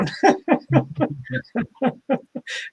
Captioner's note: laughter